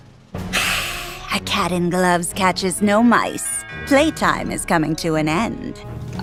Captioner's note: hiss